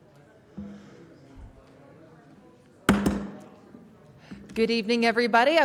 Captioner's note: sound of gavel